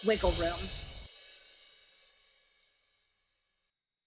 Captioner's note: bells jiggling